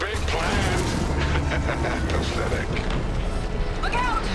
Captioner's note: laughs